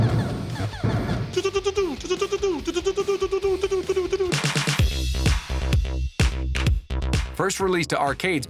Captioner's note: shooting sounds; mimics shooting sounds